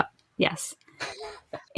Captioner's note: laughs